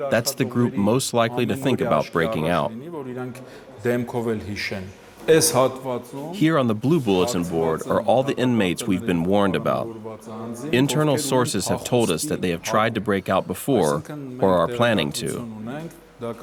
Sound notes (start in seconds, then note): 0.0 voiceover; 4.4 voiceover